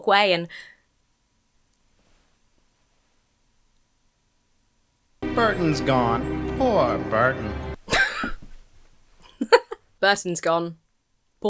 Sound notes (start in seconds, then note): 1.0 gasps; 7.8 wheezes